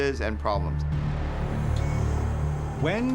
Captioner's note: monitor beeping steadily